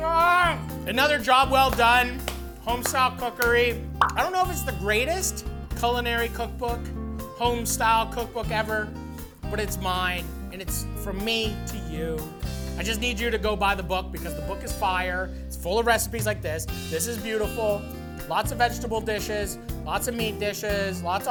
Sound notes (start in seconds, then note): 0.2 yells; 4.0 book popping